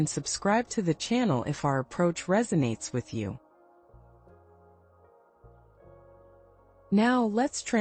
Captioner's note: pause